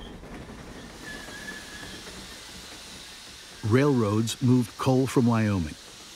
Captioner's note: train steam hissing